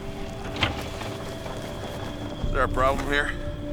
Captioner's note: window creaking